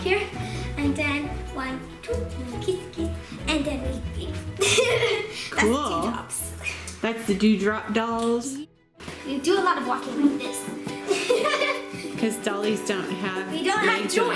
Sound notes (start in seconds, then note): 4.6 laughter; 11.0 laughs